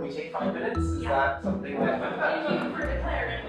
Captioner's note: chatter